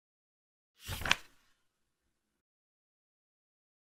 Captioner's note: page flip sound